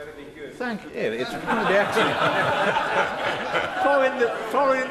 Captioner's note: laughter